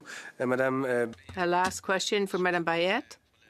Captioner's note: speaking French